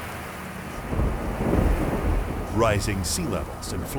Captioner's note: thunder rumbling